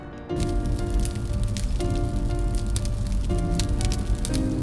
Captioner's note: dramatic music; fire crackling